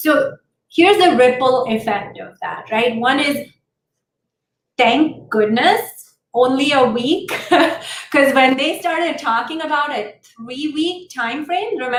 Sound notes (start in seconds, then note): 7.3 laughter